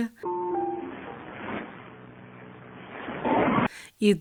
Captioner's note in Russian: звучит шум моря в записи